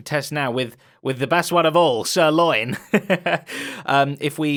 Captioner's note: laughs